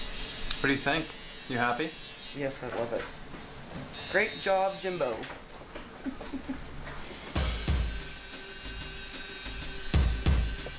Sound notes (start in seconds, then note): 5.9 giggles